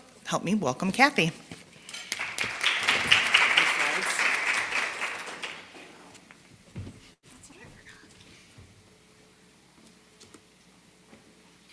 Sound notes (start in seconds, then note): 1.9 applause